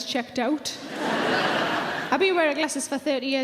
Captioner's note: audience laughing